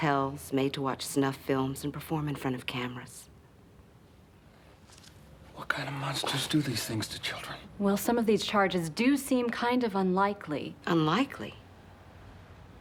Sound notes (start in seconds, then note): none